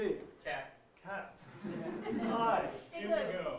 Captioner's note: audience laughing